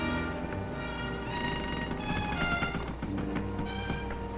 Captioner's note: rail creaking